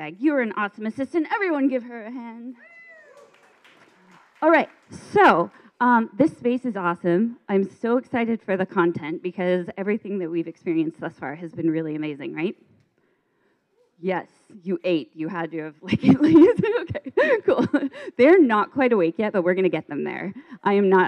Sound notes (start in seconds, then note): 2.6 cheering; 2.6 clapping; 16.7 laughs